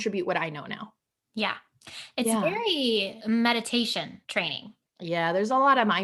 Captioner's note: relieved breath